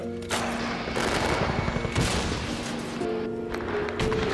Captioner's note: weapons firing; disjointed piano music